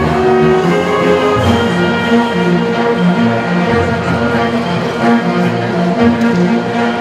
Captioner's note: audience cheering